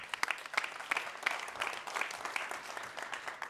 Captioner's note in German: applaus